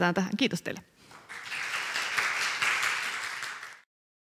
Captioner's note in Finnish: aplodeja